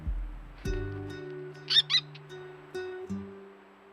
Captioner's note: owl shriek